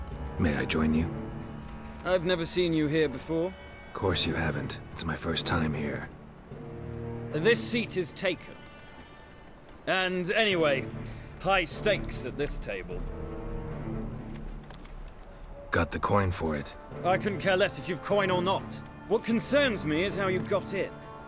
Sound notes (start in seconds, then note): none